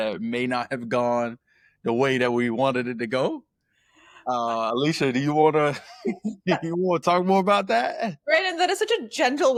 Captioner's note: laughs